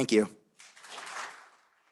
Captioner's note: applause